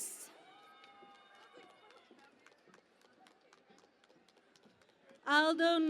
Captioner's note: cheering and Applause